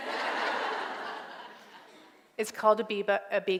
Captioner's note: laughter